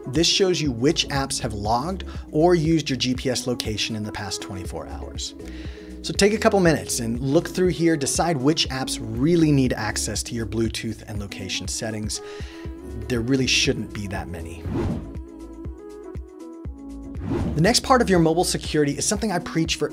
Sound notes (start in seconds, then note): 14.5 whooshing; 15.6 gentle music